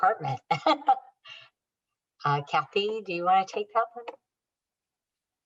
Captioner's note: laughter